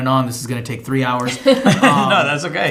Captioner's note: laughing